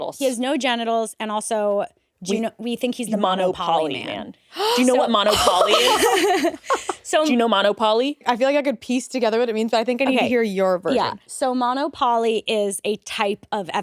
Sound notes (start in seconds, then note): 4.5 gasps